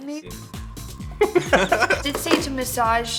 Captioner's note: laughing